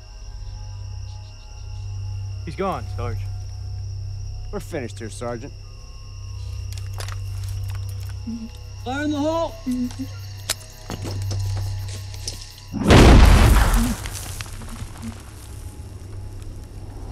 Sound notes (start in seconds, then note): 10.8 grenade clicks, rattles; 12.7 explosion